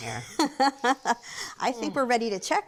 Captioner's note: laughs